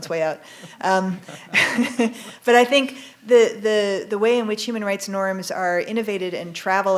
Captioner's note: chuckles